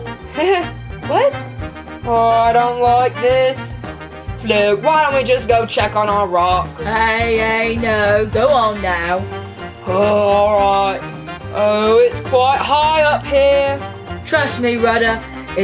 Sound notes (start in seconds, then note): 0.2 laughs nervously; 10.5 groans